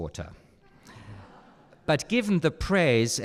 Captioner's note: audience laughing